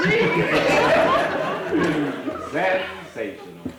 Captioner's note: audience laughing